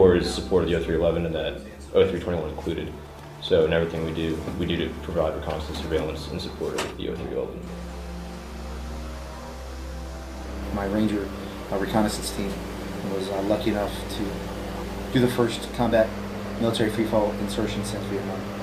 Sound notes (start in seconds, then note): 8.8 airplane engines